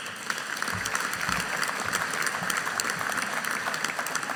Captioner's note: audience applauding